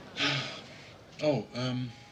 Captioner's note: sighs